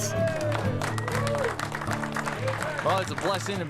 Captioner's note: cheers and applause